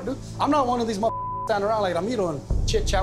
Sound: beep

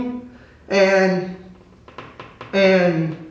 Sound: bottle tapping

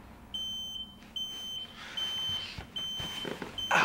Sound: fire alarm goes off

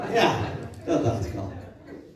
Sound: laughter

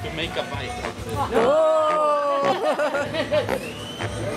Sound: laughs

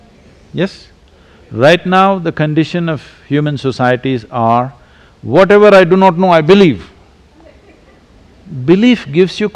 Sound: few laugh

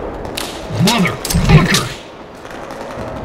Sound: pin being pulled

